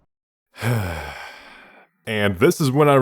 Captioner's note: sighhhh